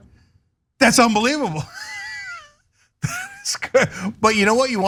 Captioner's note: laugh